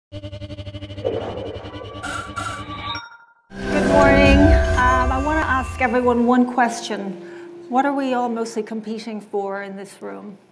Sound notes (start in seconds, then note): 0.1 digital tones